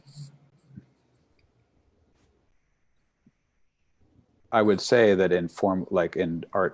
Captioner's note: a pause